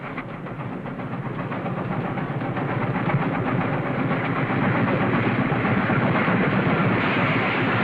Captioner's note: train chugging